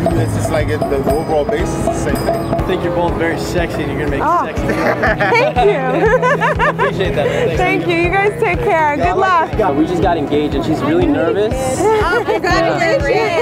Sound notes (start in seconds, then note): 4.6 nervous laughter